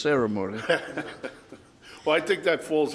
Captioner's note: laughs